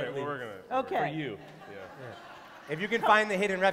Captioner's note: laughter